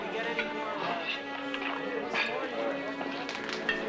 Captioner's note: crew murmuring